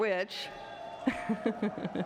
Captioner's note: cheering; laughs